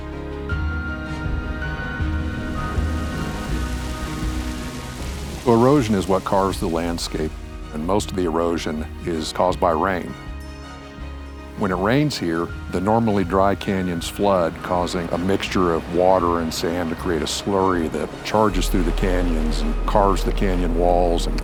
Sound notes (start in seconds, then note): 0.1 wind blowing; 2.3 rain spatters rock